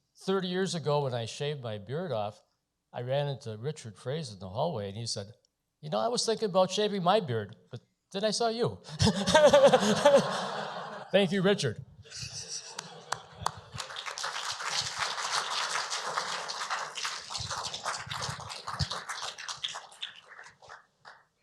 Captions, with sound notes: 30 years ago when I shaved my beard off, I ran into Richard Frase in the hallway and he said, "You know, I was thinking about shaving my beard, but then I saw you." [laughter] Thank you, Richard. [applause]